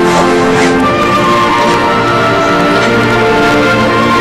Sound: sobbing

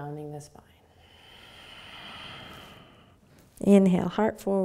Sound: exhaling

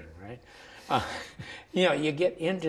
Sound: laughs

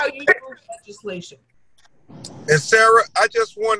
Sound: audio glitch

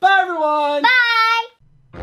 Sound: voiceover

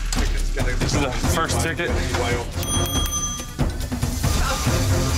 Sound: bell dinging; cash register whirring

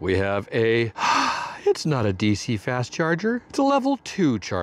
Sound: sigh

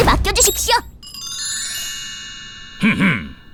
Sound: bells chime

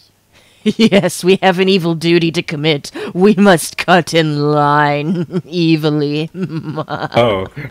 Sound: evil Laughter

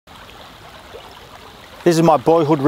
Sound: river flowing

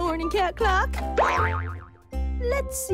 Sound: boing!

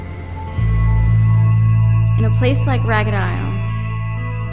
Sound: voice-over

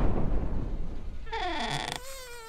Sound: boom; chest creaks open; fly buzzes away

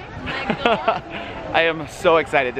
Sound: laughs

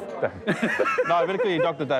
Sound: laughs

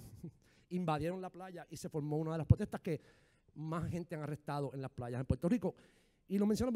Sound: speaking in foreign language

